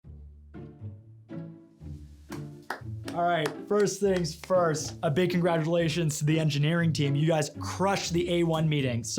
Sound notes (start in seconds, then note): 3.0 claps